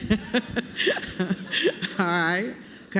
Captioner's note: laughter